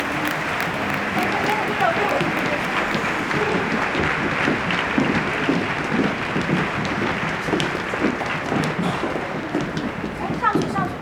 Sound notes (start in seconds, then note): 0.1 backstage ambient sound; 6.6 footsteps